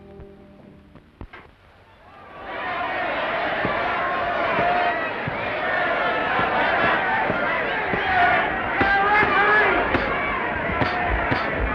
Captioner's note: crowd noise